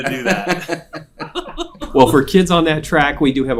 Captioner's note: laughing